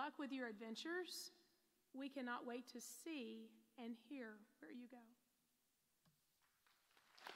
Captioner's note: applause